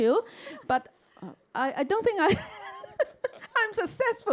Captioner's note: chuckles